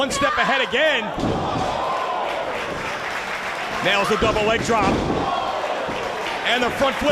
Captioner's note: applause